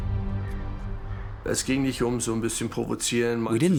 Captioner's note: speaking German